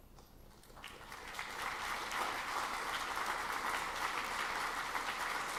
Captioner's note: audience clapping